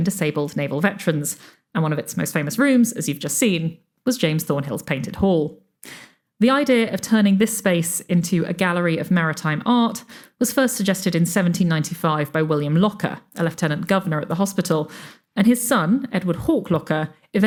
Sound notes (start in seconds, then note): none